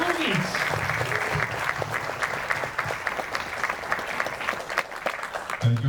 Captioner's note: audience clapping continues